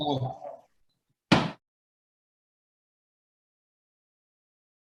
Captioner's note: gavel bangs